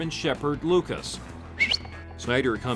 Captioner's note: whistles